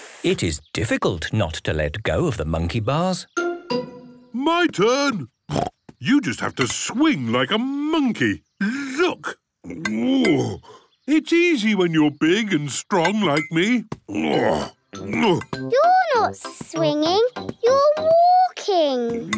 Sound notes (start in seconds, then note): 5.5 snorts; 9.6 grunts; 14.0 grunts